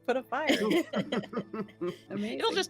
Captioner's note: all chuckling